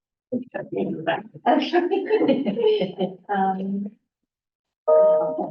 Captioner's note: chatter